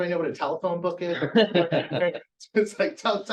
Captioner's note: laughter